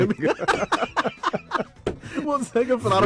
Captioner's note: laughter